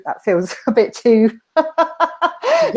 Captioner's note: laughing